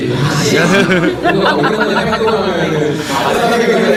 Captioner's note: haha